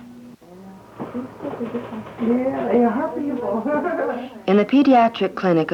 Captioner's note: indiscriminate chatter